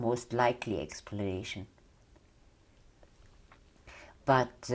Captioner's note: pauses for 3 seconds